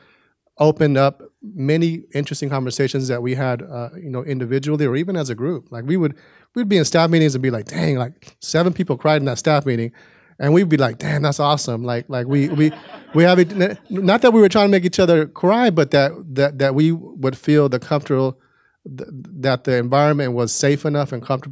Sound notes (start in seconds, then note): 12.2 audience laughing